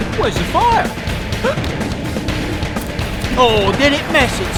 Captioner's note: gasping